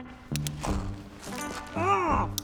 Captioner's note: fabric ripping